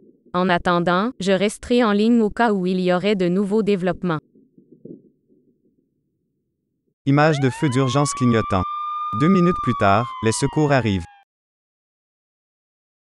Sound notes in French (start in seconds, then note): 7.1 sirène